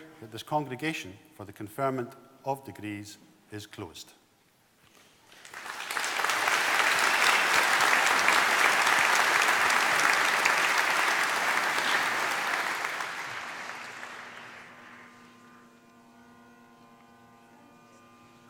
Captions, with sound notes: that this congregation for the conferment of degrees is closed. (APPLAUSE)